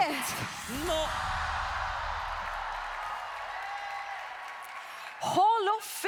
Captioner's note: applause